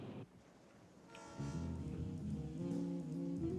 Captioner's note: train horn blares